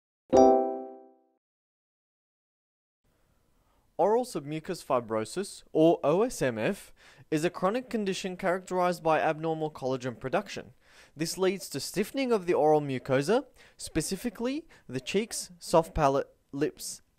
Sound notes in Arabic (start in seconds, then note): 0.3 دقات الجرس